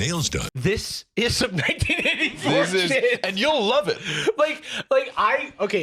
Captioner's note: laughing